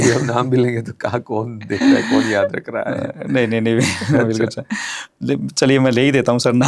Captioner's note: laughter